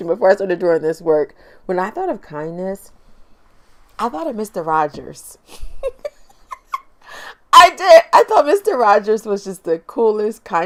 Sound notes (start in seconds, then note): 5.5 laughs